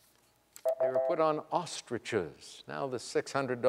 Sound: electronic beeping

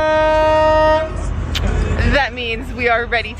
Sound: honking noises

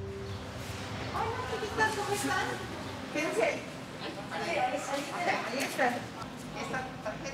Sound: speaking Spanish

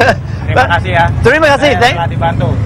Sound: speaking indonesian

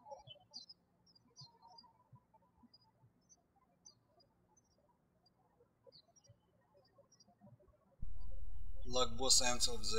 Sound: birds chirping

